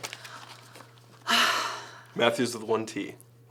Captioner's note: sighing